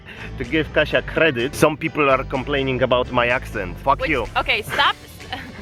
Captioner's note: spoken in an accent